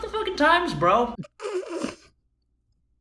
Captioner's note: present snickers